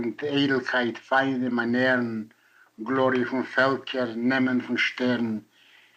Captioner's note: in Yiddish